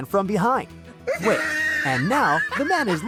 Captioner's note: cartoon laughing